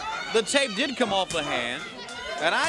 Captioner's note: crowd cheering